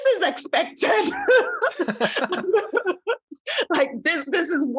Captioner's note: laughter